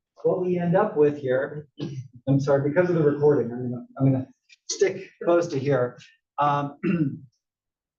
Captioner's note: cough